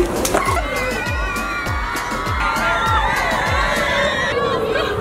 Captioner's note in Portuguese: Gritaria/Euforia